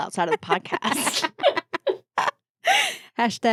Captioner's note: laughing